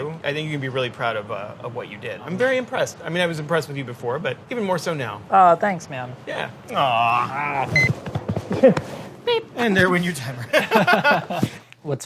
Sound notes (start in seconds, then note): 7.7 timer beeps; 10.3 laughing